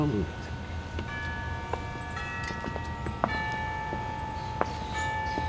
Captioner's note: bell ringing